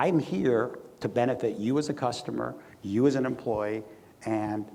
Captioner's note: none